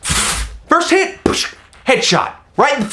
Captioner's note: shooting sounds; paintball sound